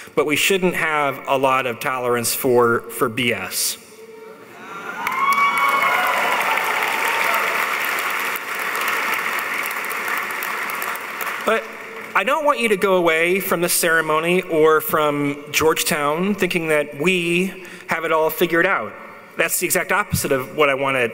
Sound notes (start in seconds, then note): 4.7 audience cheering; 4.9 audience applauding